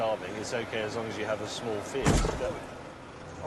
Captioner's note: thud